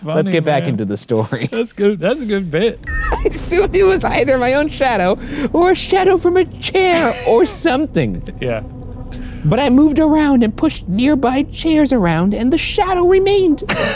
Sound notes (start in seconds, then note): 2.6 laughs; 3.5 cackling